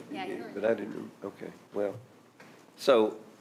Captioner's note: speaking quietly